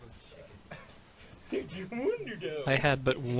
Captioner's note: in a goofy voice